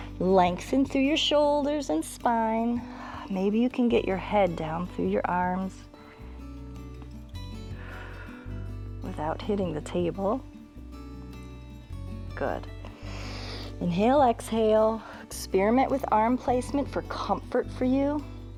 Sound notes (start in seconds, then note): 12.8 inhales